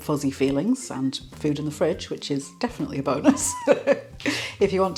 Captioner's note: laugh